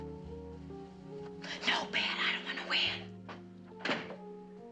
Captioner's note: whispering; whispering